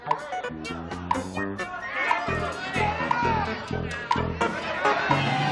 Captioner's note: cheering